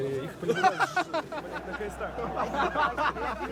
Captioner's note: men laughing